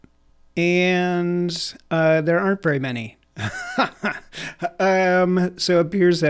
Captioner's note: laughing